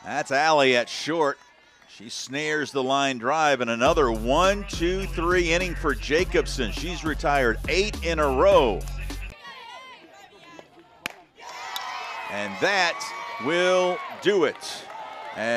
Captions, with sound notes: That's Ally at short she snares the line drive and another one, two, three inning for Jacobsen. She's retired eight in a row. [crowd cheering] and that will do it